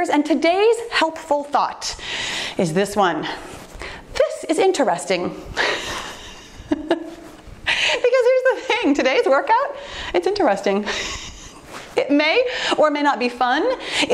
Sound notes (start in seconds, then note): 6.4 laughs